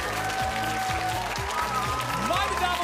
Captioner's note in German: Applaus